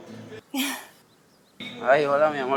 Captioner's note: gasps